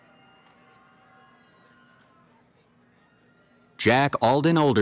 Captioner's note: cheering